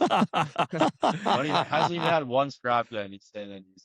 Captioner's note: laughter